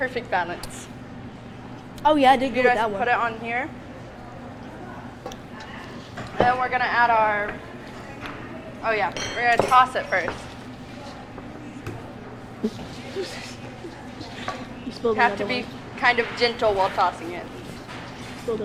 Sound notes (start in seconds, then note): 3.4 audience chatters quietly; 9.2 spoon clatters; 12.4 chuckling quietly